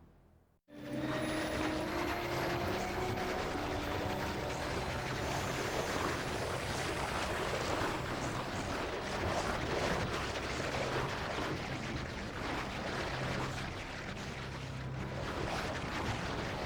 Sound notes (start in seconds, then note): 1.9 churning Noise</i> <i> Continues